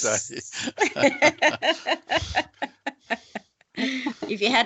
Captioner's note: all laughing